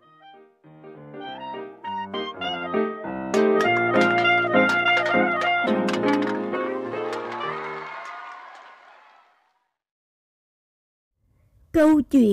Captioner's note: clap